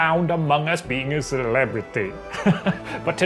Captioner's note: laughs